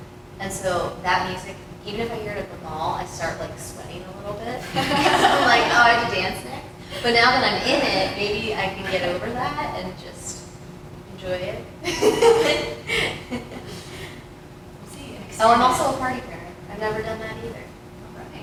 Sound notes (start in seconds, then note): 11.8 laughter